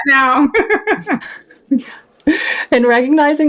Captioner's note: laughing